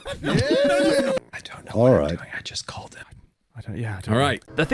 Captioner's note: crowd laughs; whispering